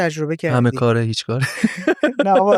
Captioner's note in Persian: خنده